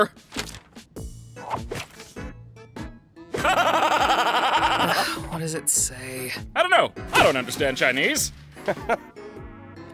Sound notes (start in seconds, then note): 3.4 laughs manically; 4.5 sighs; 8.6 chuckles